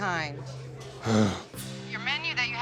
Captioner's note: Jon sighs